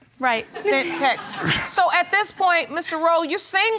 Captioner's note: laughs